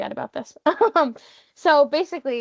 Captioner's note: laughing